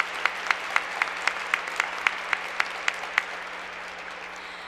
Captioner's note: applause